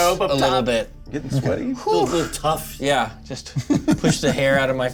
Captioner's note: exhales